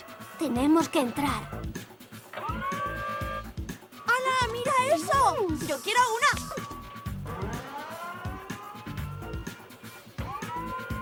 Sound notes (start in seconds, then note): 5.0 gasps